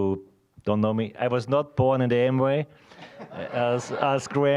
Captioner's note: audience laughing